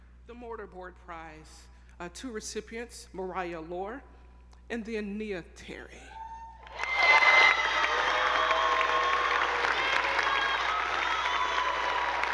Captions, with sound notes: The Mortar Board Prize, two recipients, Mariah Loehr and then Nia Terry. (attendees applauding) (audience cheering)